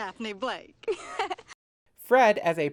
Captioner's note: giggles